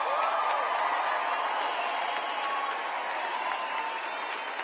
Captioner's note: applause